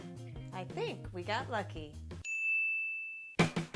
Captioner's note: ding